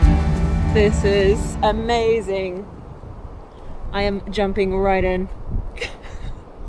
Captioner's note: laughs